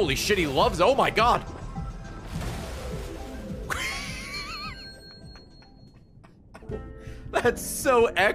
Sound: laughs

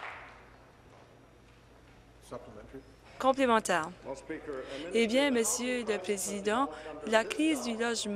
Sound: applause

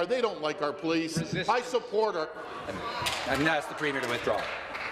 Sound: applause

